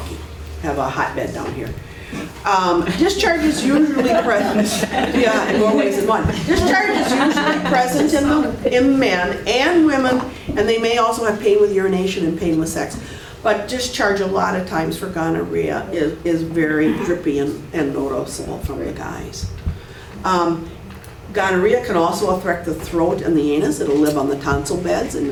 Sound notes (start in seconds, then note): 2.8 laughs